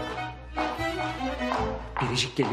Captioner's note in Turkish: Ayak sesi